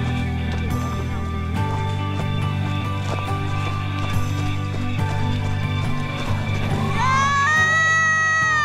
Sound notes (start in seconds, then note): 3.7 people cheering